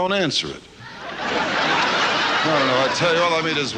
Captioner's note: audience laughs